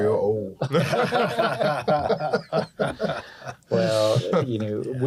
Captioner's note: laughter